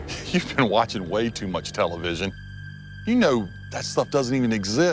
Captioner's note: chuckling